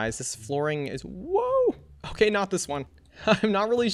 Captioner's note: laughs